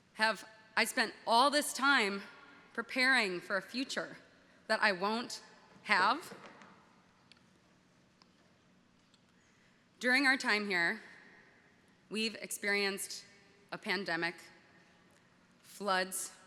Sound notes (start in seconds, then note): none